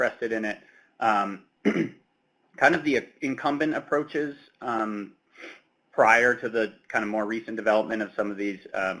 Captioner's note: clears throat